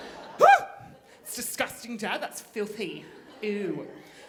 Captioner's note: shrieks